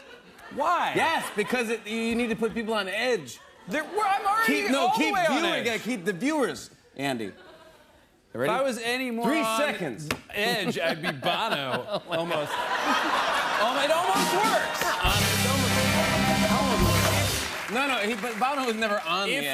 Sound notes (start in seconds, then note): 12.5 laughter and applause; 14.6 rimshot